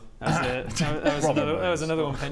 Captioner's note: cough